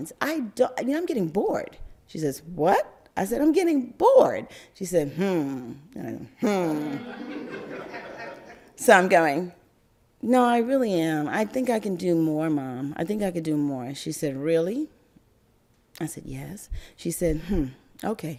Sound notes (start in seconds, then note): 6.8 crowd laugther